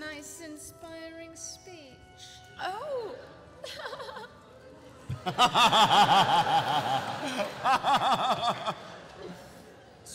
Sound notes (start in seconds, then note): 3.6 giggles; 5.2 laughs